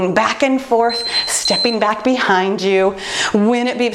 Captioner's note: timer beeping